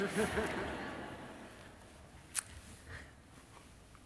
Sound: audience laughs

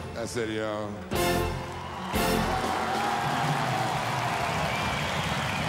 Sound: audience applauding

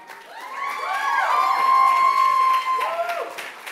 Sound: cheers

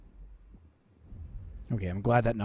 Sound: boom

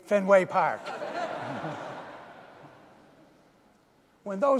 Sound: audience laughing

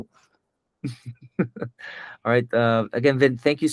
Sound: laughs

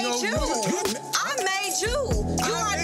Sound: beep

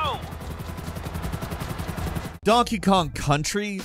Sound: helicopter whirring

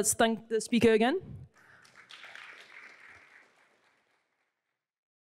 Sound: applause

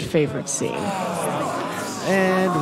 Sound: crowd groans

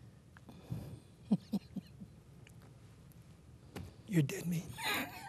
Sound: laughing

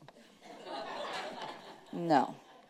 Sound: audience laughing

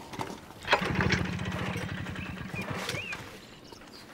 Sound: engine sputtering

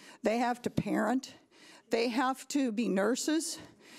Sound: none

